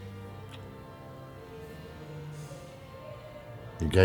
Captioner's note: kisses